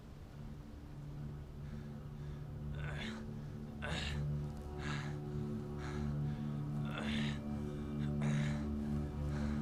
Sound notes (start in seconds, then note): 0.1 somber orchestral music; 2.7 Haviland grunts